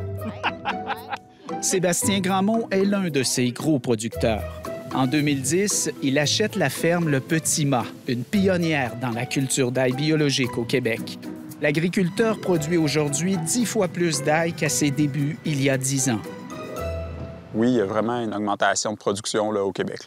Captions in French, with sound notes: - Ça pousse, c'est le fun! (rire) - Sébastien Grandmont est l'un de ces gros producteurs. En 2010, il achète la ferme Le Petit Mas, une pionnière dans la culture d'ail biologique au Québec. L'agriculteur produit aujourd'hui 10 fois plus d'ail qu'à ses débuts, il y a 10 ans. - Oui, il y a vraiment une augmentation de production